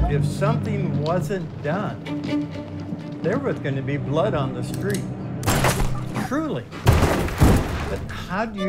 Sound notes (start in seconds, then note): 5.4 gun fires; 7.1 guns firing